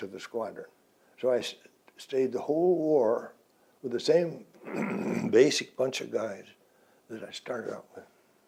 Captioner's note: clears throat